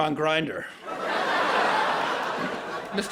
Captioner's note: laughter